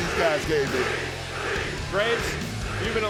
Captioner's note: crowd chanting